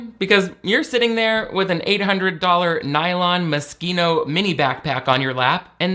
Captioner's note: none